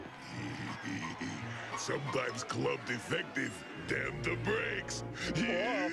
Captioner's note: laughs